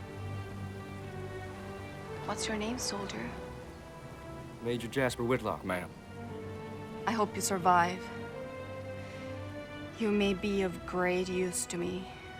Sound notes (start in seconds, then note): none